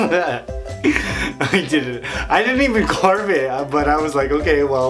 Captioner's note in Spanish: risas